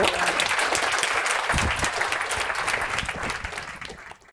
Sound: audience clapping

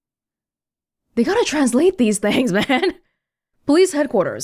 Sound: chuckles

